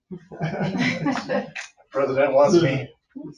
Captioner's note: people chuckling